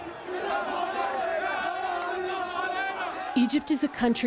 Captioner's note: angered shouting